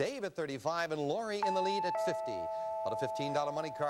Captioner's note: doorbell